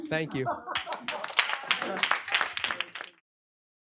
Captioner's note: laughter, applause